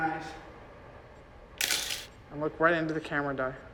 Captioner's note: shutter clicks